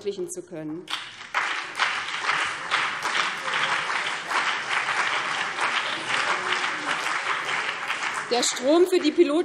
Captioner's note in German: Beifall BÜNDNIS 90/DIE GRÜNEN und CDU